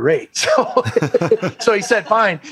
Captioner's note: laughter